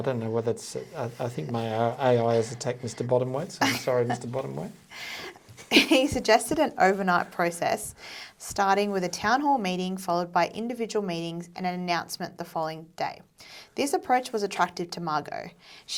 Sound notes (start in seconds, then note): 5.4 chuckles